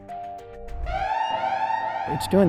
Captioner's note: soft music; alarm blaring